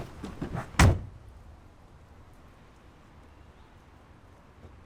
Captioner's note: door thuds